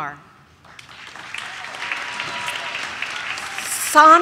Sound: audience claps

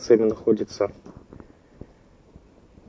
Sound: silence

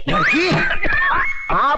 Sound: cough

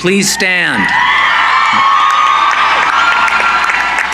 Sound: cheering

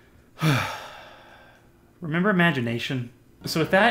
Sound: sigh

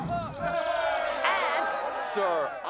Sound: cheering

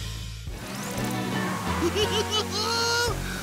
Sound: laughing

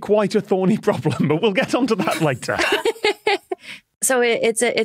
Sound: group laughing

